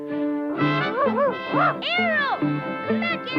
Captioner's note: dramatic music; Arrow barking